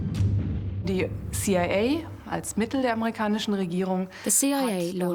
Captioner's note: speaking German